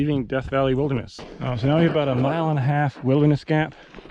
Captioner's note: air whooshing